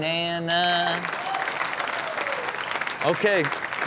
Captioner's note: audience clapping and cheering